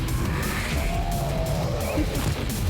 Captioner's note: roaring